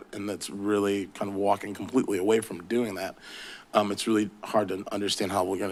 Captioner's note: none